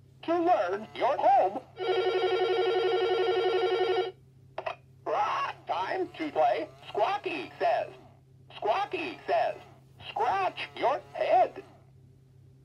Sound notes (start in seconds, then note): 1.7 phone ringing; 5.0 squawks